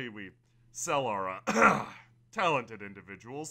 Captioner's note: Thog coughs